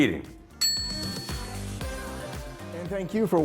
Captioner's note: typewriter carriage dings